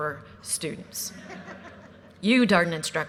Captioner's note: audience laughter